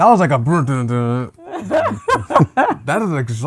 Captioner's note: laughter